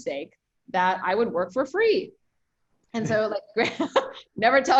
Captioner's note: laughs